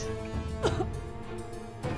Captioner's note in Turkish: Öksürme sesi